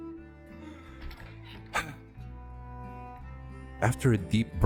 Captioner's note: sigh